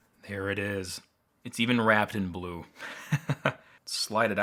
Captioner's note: laughs